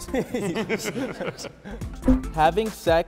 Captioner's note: laughs